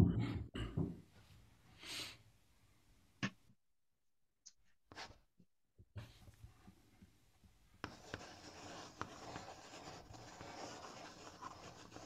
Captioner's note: sound of chalk drawing on a blackboard